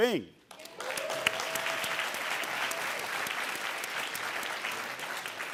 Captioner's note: audience cheering and applauding